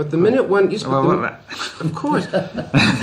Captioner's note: laughs